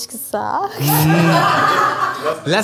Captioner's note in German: Gelächter